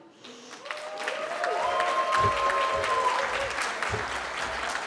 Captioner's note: cheering